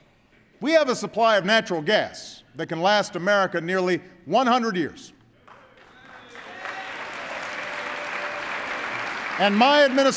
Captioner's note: applause